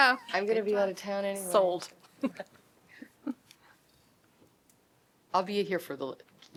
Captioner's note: laughter